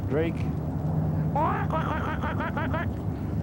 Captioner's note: quacking